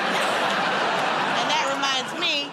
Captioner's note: laughter